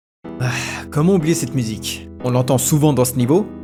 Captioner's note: sigh of nostalgia